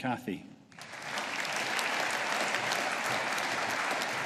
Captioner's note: audience applauding